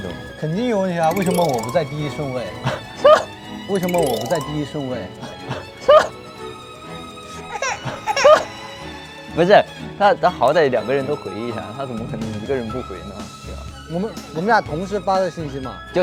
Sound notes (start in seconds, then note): 2.6 A flustered laugh